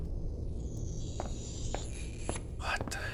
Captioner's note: scratching sound